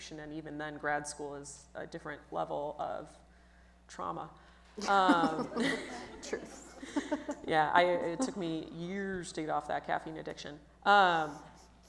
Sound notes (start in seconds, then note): 4.9 audience laughs